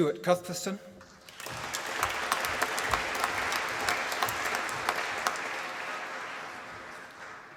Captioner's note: applause